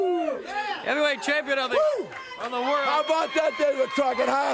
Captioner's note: crowd chatter